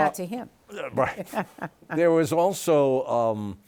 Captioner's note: laughs